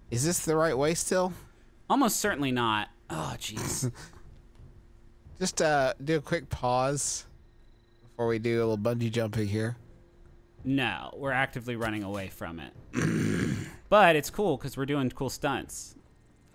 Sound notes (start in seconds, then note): 12.9 clearing throat